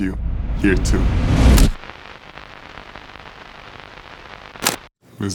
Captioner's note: static crackling